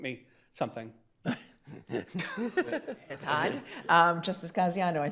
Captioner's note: judges chuckling